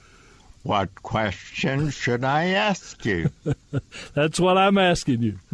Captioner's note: laughter